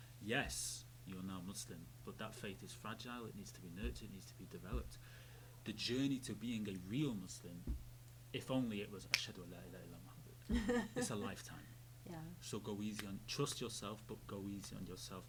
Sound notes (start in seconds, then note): 9.4 speaking foreign language